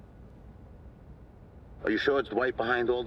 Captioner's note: on phone